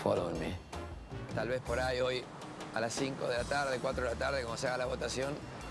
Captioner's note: in Spanish